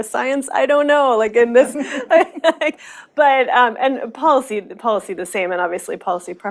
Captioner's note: chuckles